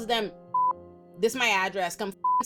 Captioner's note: beep; beep